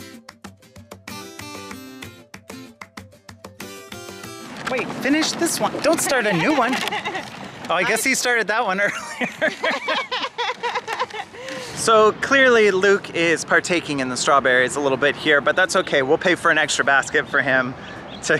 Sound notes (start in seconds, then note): 6.0 laughing; 8.8 laughing